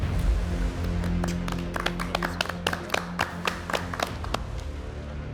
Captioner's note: judges clapping; tense suspense music continues